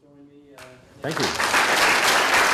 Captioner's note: applause